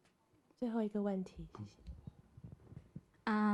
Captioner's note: Mandarin